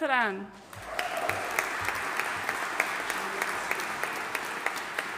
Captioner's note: audience applauding